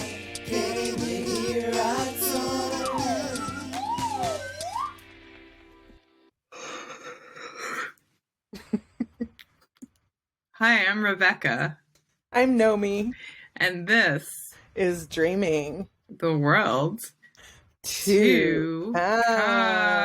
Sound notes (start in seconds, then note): 6.6 yawn